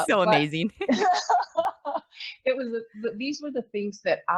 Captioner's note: laughs